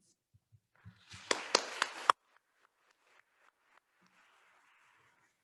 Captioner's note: attendees applauding